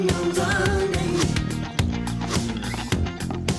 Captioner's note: birds chirping